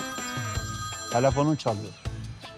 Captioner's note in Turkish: telefon çalıyor